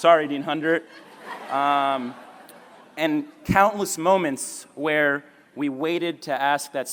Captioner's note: laughter